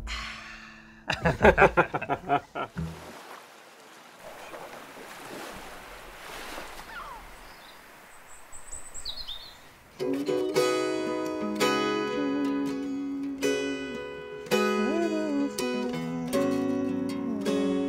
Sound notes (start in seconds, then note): 1.0 laughing; 3.8 waves crashing; 6.8 seagulls squawking; 10.4 light guitar music; 11.2 humming melody